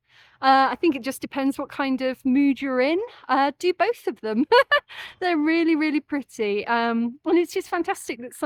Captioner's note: laughing